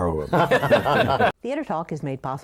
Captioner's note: laughter